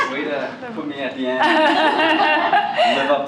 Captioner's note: laughter